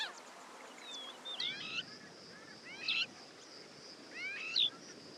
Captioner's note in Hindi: चहचहाहट